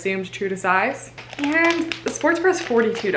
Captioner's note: packet crinkling